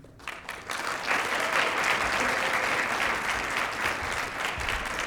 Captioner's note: applause